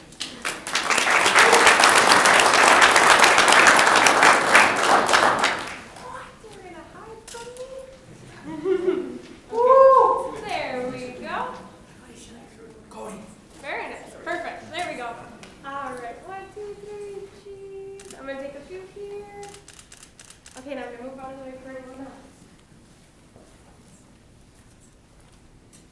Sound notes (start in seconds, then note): 0.0 audience clapping; 9.5 man cheering